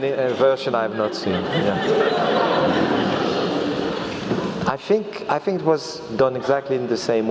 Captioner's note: laugh